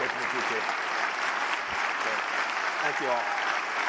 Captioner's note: applause